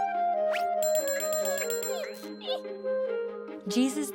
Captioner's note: bell ringing